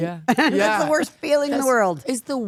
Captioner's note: laughing